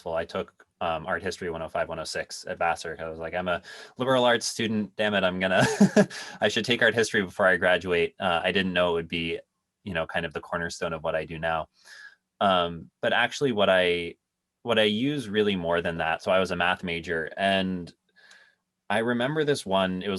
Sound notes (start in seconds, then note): 5.4 laughs